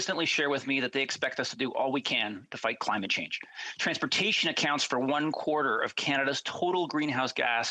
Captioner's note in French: voix de l'interprète